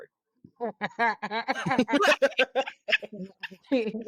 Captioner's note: laughter